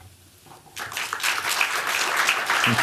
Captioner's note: applause